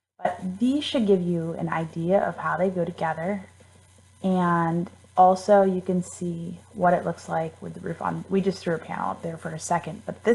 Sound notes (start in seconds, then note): none